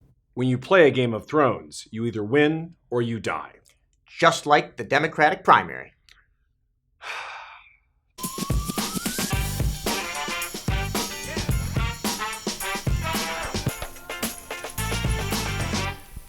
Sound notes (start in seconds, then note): 7.0 sigh; 8.2 upbeat funk music